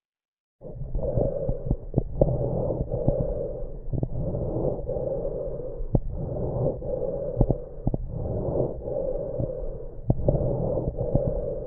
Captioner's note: COPD Patients lung sound